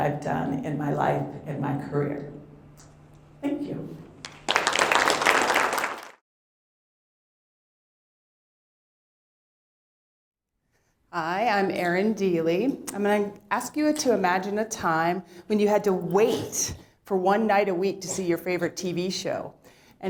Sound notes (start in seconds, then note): 4.2 applause